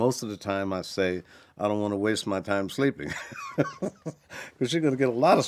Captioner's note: laughs